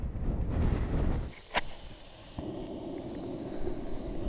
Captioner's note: wind noise; noise of ignited match